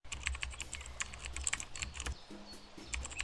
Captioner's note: typewriter sounds